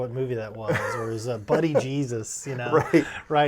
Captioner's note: laughing